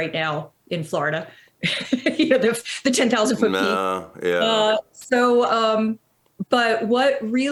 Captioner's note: laughs